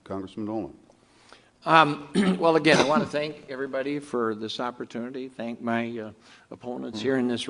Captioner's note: clears throat